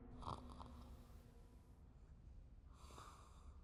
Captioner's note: snoring